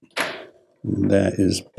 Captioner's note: equipment dropping sound